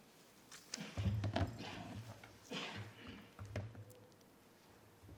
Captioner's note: person coughing